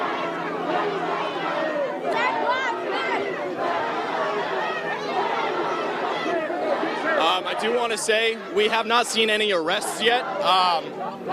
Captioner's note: chanting